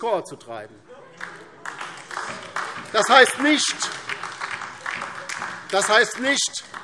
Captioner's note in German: Heiterkeit und Beifall DIE LINKE